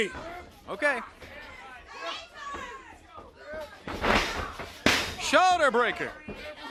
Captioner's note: crowd chatter